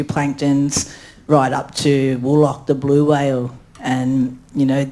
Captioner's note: speaks in foreign language